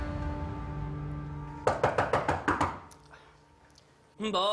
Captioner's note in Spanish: Toques en la puerta